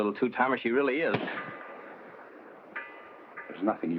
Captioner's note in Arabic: هانك يصفع